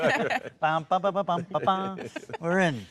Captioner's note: Ralph humming